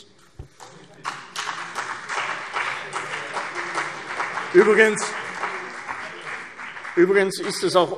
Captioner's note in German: Beifall CDU und BÜNDNIS 90/DIE GRÜNEN